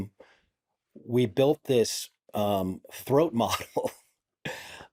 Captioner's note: chuckles